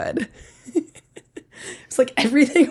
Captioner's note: laughs